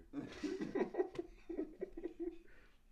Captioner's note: laughter